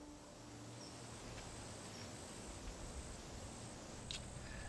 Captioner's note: insects buzzing